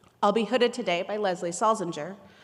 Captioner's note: none